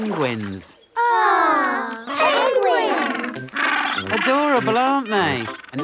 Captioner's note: penguins chatter